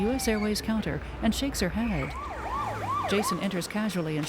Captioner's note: siren Wails